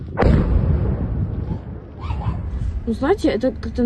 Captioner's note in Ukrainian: вибух